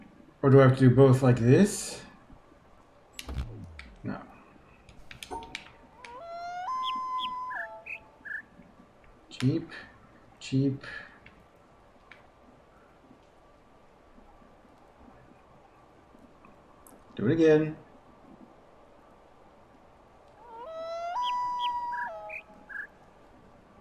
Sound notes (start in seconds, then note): 5.9 coyote howls ˩˧˥˥ ˧; 5.9 bird chirps five notes; 20.4 coyote howls ˩˧˥˥ ˧; 20.4 bird chirps five notes